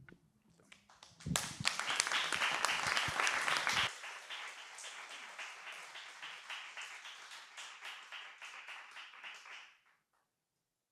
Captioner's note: applause